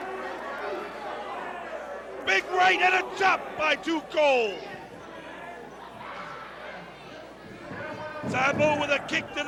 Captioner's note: crowd cheering